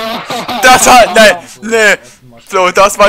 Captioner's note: laughs